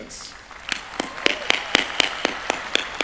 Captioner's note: applause